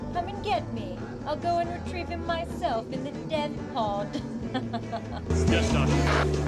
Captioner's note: laughs